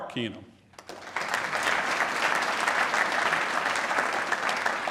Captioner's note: applause